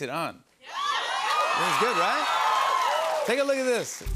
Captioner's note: cheers and applause